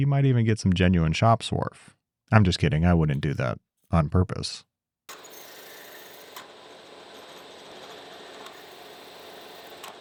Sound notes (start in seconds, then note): 5.1 machine whirring